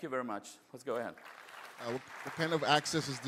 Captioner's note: applause